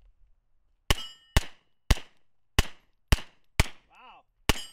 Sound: firing single shots

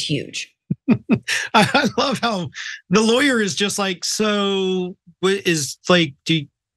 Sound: laugh

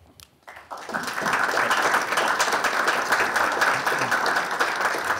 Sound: audience clapping

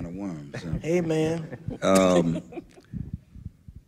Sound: laughter

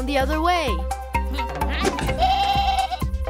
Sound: bleating

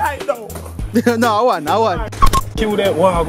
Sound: laughs

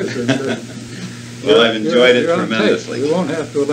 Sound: laughs

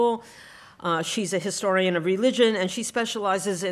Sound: none

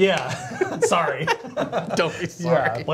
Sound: laughing

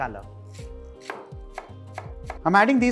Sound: chopping sound

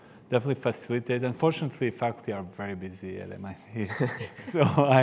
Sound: laughs

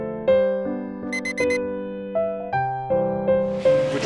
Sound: alarm beeping

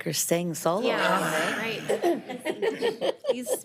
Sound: members agreeing

